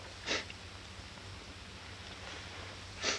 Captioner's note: sniffling